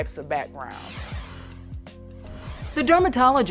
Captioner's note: air whooshes